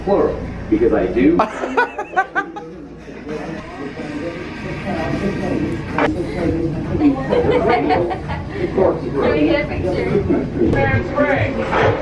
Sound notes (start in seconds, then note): 1.4 laughing; 7.0 chuckling